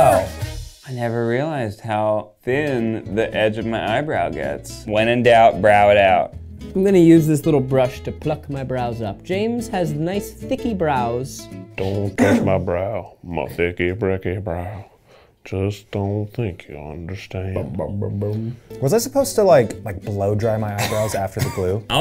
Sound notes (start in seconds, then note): 17.5 Zach vocalizes